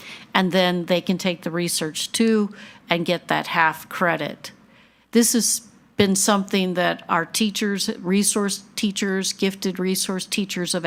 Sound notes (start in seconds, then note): none